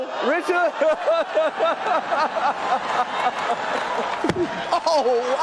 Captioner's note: audience and Chris laughing